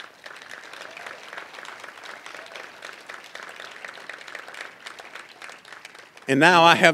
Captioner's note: applause